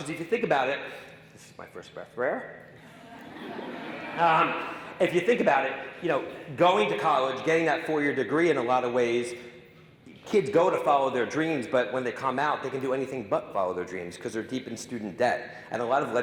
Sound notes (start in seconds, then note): 2.8 audience laughing